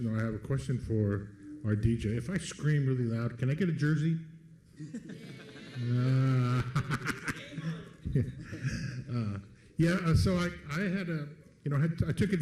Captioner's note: laughs